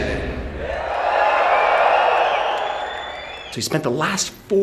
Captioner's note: crowd cheering